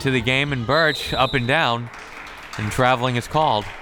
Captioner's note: whistle tweeting